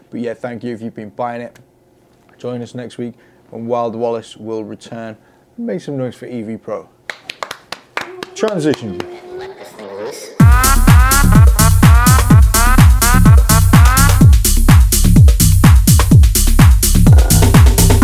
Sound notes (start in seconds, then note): 7.0 clap; 10.4 rhythmic house music